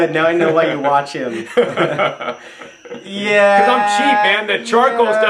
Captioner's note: chuckles